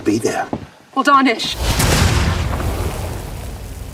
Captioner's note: explosion